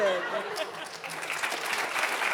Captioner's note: everyone laughing; audience applauding